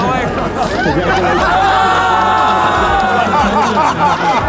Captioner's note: laughter